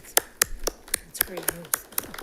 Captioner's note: attendants applauding